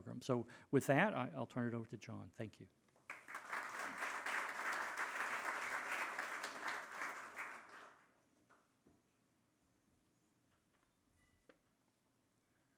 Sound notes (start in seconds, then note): 3.0 audience applauding